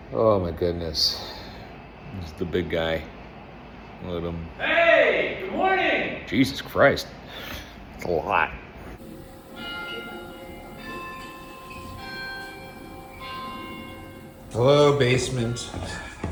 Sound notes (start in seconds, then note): 9.0 clock chiming; 16.0 footsteps descending; 16.0 sighing